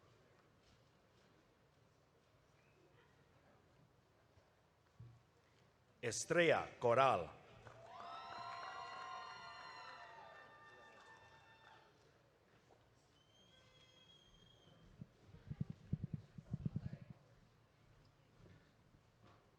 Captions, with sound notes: Estria Coral. (audience cheering)